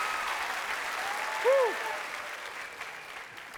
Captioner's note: cheers and applause